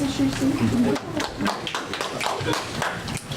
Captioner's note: audience applauds